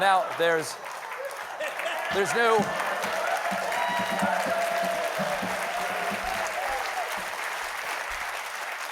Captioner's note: cheers and applause